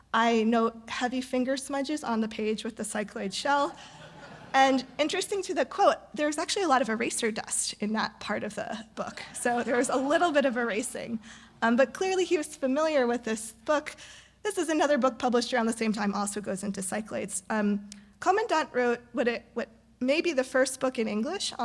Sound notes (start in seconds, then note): 3.6 audience laugh